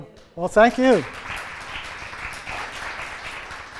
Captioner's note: applause